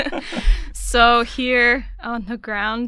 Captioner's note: laughter